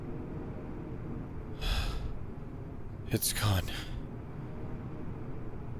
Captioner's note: sigh